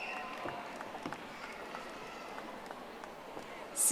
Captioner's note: audience applauding